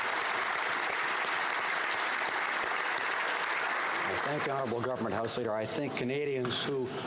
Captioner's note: applause